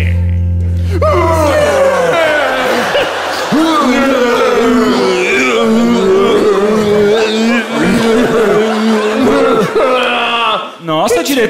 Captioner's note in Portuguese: grunhidos